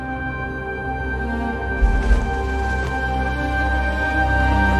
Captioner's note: music swelling; fabric rustling